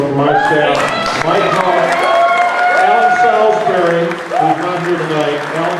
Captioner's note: crowd cheering